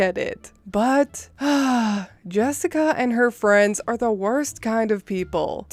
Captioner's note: sigh